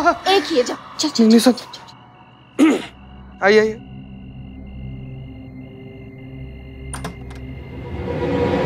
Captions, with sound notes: It's just one. Go on. [clears throat] Let's go. [door handle clicks]